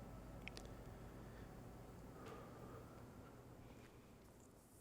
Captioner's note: quivering exhale